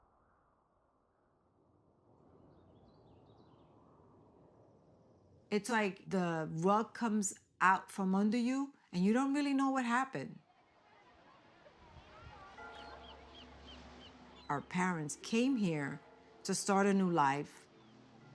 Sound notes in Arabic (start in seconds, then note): 10.8 ثرثرة الناس; 12.5 رنين الجرس